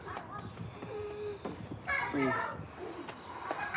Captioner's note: wheezes